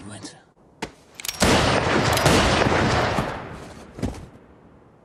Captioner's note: gun shooting